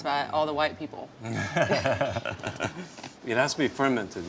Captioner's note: laughing